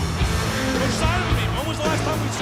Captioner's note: crowd cheering